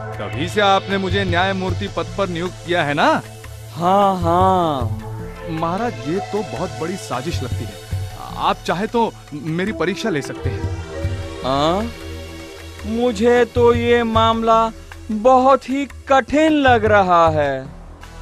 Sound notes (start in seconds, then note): none